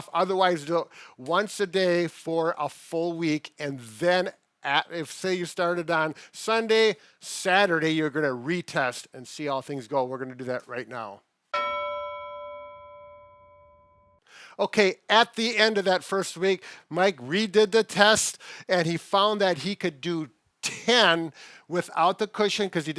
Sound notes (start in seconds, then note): 11.5 bell dings